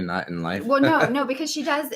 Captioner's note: laughs